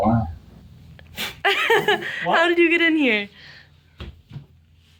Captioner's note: giggles